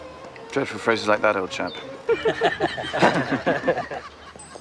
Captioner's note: laughing